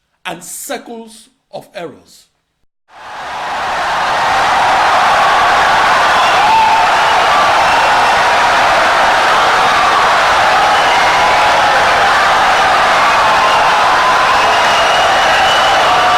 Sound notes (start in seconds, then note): 2.9 wild applause and cheering for 17 seconds